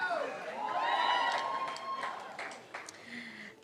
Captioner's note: cheering